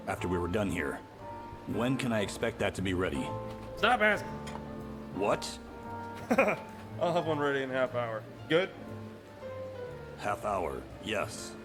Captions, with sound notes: after we were done here. When can I expect that to be ready? - Stop asking! - What? - (laughing) I'll have one ready in a half hour. - Good? - Half hour, yes.